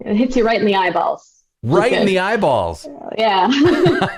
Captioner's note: laughter